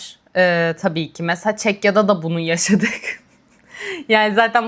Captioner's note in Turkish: kahkaha